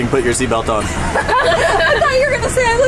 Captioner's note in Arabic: مجموعة تضحك